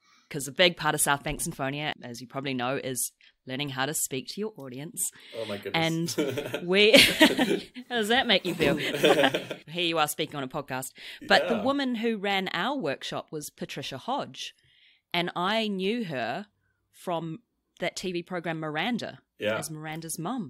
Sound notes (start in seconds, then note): 8.1 laughs